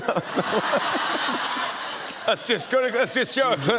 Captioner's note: laughs; laughter